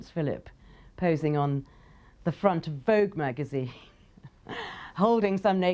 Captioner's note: laughing